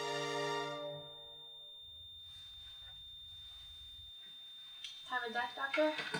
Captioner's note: monitor beeping continuously